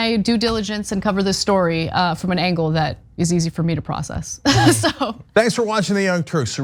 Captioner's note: laugh